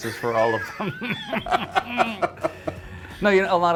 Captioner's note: both laughing